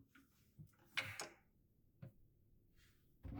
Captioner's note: none